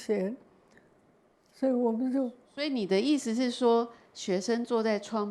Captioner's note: Mandarin